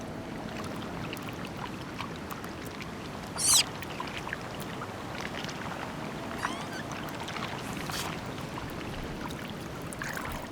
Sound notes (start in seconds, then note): 3.4 screeches